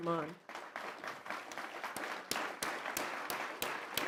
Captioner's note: applause